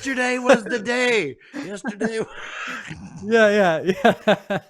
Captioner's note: laughs